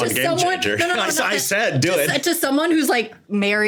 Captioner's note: laughing